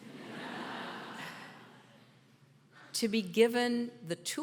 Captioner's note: audience laughter